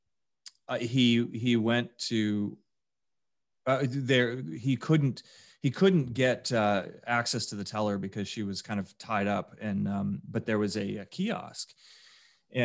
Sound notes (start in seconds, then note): none